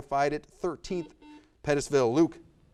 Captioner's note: buzzer buzzes